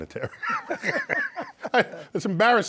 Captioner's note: both laugh